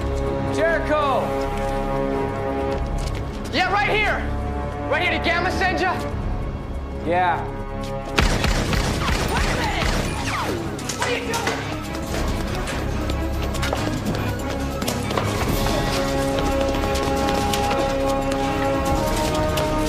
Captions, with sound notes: Jericho! Yeah, right here! Right here. Did Gamma send ya? Yeah. (gunshots) Wait a minute! (dramatic music)